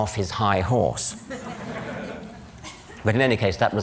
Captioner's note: laughter